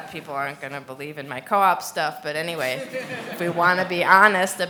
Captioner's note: laughs